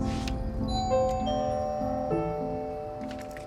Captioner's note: doorbell ringing